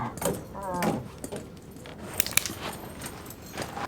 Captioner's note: groaning